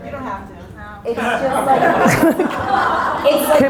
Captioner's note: audience laughter